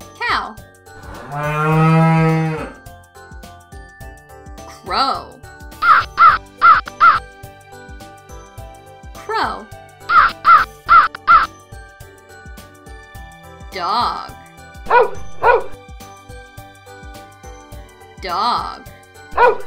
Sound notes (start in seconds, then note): 1.0 cow mooing; 5.8 crow cawing; 10.1 crow cawing; 14.8 dog barking; 19.3 dog barking